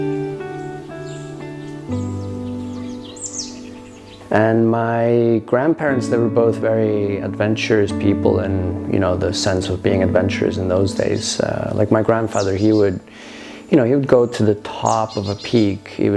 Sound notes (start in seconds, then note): 0.0 calm music; 2.5 birds chirping